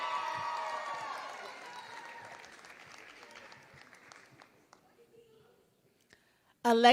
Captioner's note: applause